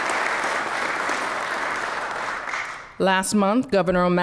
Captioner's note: applause